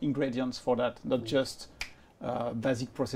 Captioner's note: snaps fingers